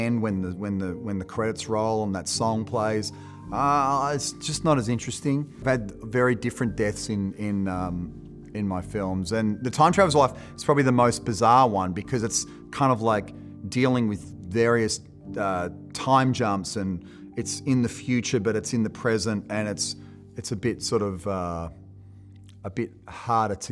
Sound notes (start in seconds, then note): none